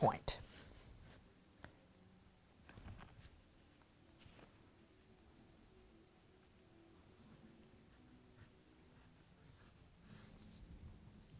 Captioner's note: no significant sound